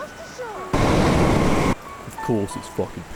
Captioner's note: truck sounds